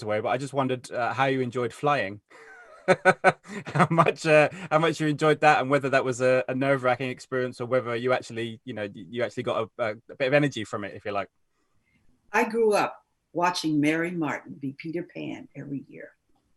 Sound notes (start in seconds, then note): 2.3 laughs